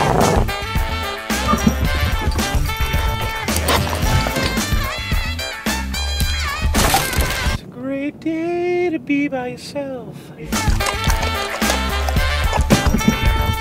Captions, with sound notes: [GROWLING] [JAZZ MUSIC] [CRASHING] (SINGING) It's a great day to be by yourself. [JAZZ MUSIC]